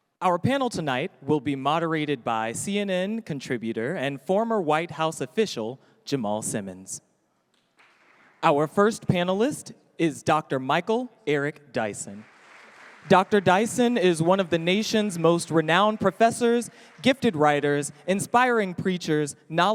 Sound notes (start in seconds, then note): 7.8 audience applauding